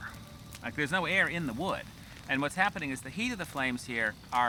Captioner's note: none